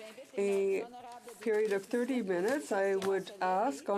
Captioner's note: speaking French